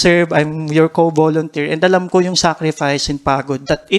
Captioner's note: none